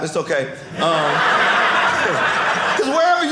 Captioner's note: audience laughing